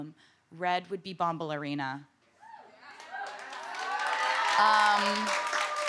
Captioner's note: cheering, applause